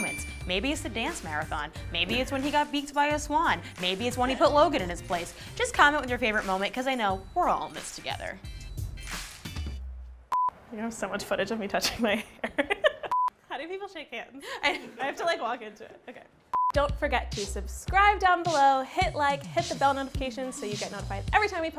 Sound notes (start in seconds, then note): 10.3 beep; 12.2 laughing; 13.1 beep; 15.1 laughing